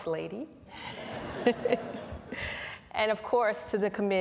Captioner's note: laughter